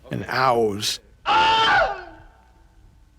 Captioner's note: studio recording, man screaming